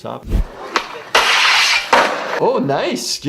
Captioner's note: skateboard scraping